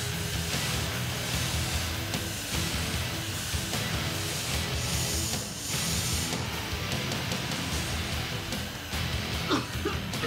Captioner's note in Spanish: sonido del aire